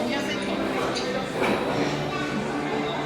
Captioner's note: conversations and background music